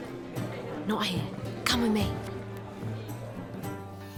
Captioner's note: hushed